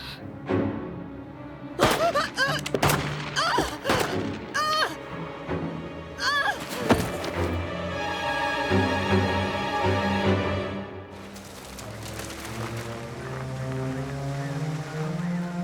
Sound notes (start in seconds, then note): 2.6 gunshots; 12.4 somber music